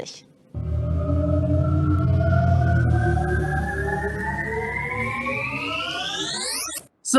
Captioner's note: time travel noise